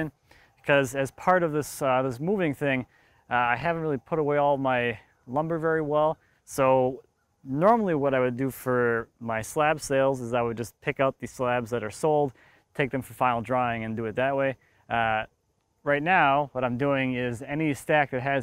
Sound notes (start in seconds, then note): none